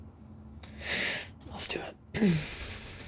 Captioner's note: quietly